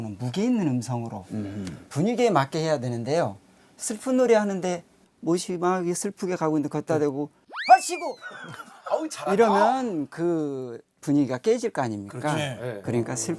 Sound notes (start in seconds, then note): 7.6 haha